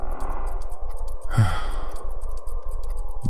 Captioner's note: вздох